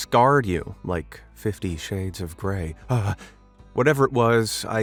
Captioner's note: gasps